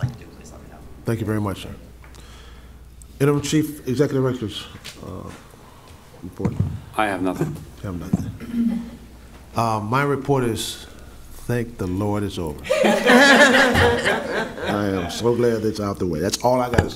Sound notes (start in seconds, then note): 12.6 laughing